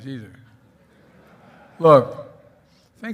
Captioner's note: laughter